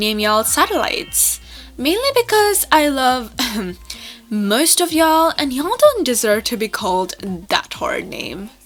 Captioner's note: ahem